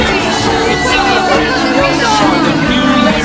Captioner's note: Spanish